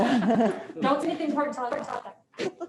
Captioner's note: they all laugh